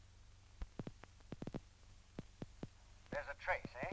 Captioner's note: clicking sound